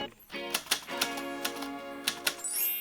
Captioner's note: type Writer Sounds; tinkling Sounds